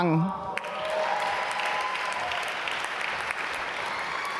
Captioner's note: applause